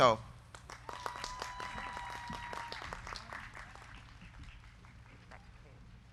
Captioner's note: crowd clapping; crowd cheering